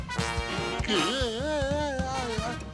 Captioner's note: Rocky screams